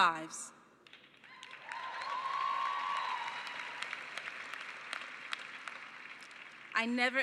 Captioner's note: cheering and applause